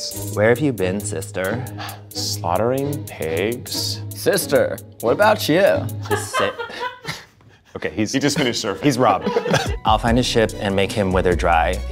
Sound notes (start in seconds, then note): 1.5 sighing; 6.0 laughing